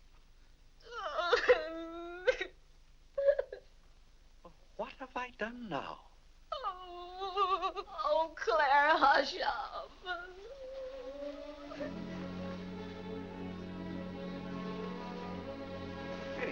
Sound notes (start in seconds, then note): 0.9 Vinnie cries; 6.2 weeping; 9.8 weeping; 10.0 soft sad music